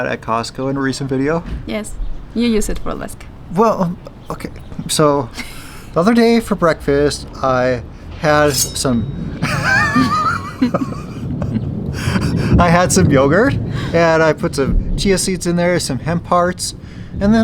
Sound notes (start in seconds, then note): 8.4 throat cutting slashing; 9.4 laughs